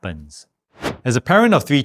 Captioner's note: air whooshing